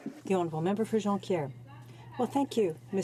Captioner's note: speaking French